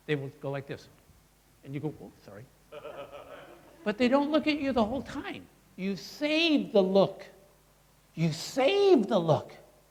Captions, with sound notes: they will go like this. And you go whoa, sorry. (crowd laughing) But they don't look at you the whole time. You save the look. You save the look.